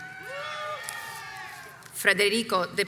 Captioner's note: crowd cheers